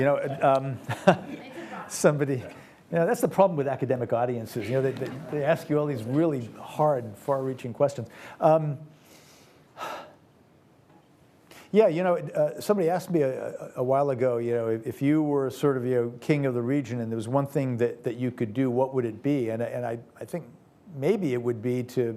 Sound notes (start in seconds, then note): 0.2 laughs; 9.8 sighs